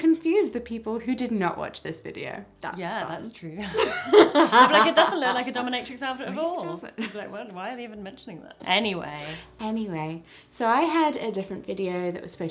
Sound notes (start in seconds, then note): 3.6 laughter